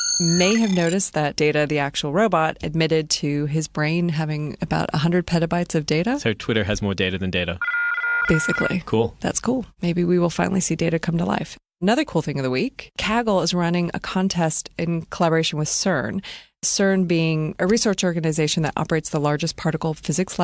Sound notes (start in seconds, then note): 7.6 digital sound